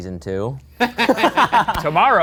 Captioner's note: laughs